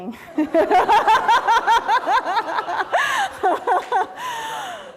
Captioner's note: laughter